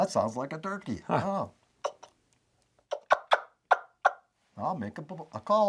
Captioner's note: wing bone turkey call clucking